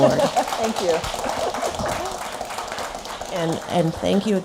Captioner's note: applause